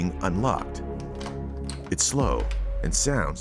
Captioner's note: lock clicking